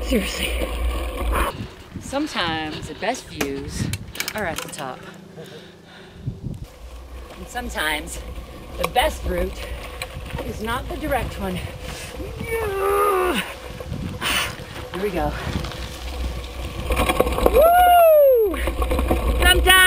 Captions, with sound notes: Seriously. Sometimes, the best views are at the top. And sometimes, the best route is not the direct one. (groaning) Ah! Here we go. Whoo!